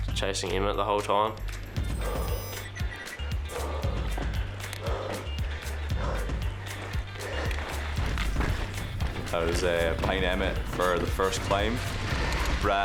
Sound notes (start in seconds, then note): 1.7 upbeat music; 3.3 panting